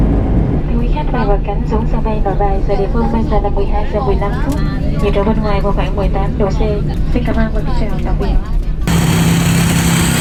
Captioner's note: flight attendant speaking Vietnamese